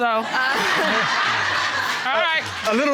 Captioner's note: audience laughing; chuckling